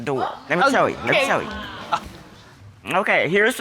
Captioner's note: audience gasps